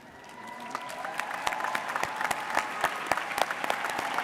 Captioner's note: audience cheers